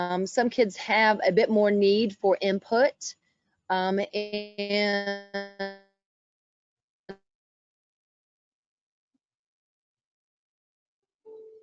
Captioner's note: sound loss